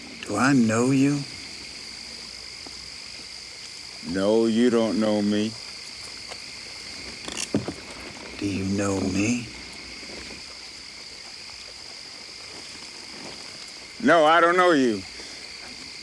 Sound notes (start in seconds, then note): none